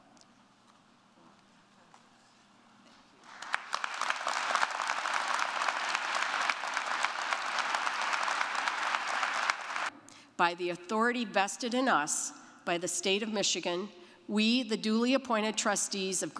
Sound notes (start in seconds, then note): 3.2 audience clapping